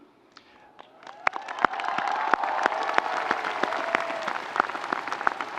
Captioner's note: audience applauding